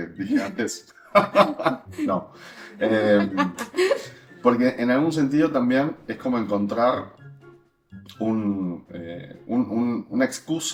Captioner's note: laughs